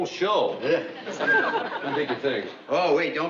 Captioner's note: whistles